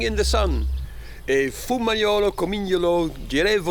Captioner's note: speaking Italian